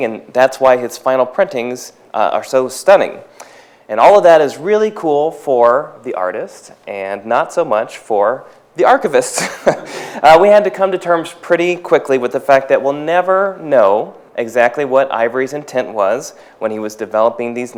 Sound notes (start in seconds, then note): 9.3 chuckles